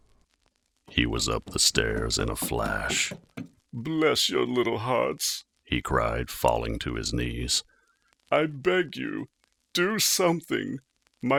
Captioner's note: running up the stairs